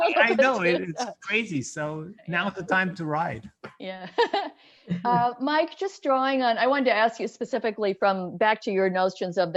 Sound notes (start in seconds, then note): 4.9 chuckles softly